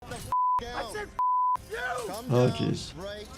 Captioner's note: beep